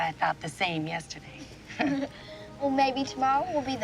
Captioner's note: laughs